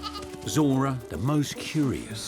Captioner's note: sheep bleats